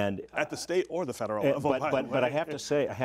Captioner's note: laughter